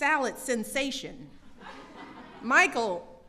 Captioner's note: laughter